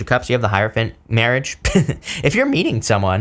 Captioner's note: chuckles